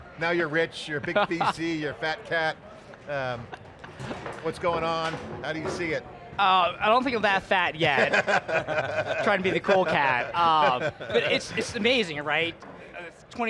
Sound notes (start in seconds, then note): 7.9 all laugh